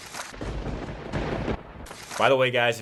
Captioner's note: thunder crackles